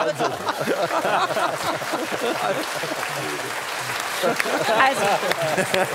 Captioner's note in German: Lachen; Applaus